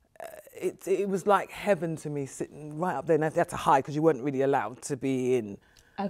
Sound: none

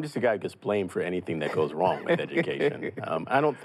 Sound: laughs

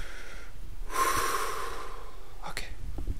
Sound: breathes

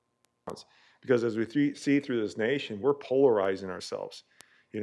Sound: audio cutting in and out

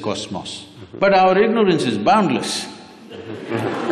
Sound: laughter/Applause

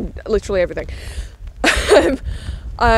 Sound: laughs

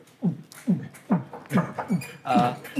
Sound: Justin knocking on the door

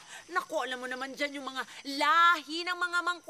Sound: none

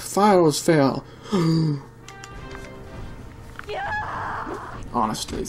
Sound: gasp

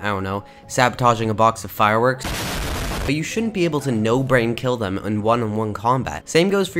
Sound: boom

